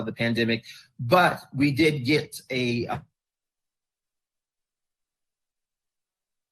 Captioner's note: distorted audio